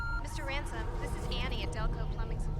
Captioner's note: beeping; voiceover